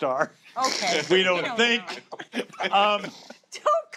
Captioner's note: laughter